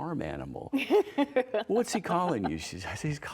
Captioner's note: laughter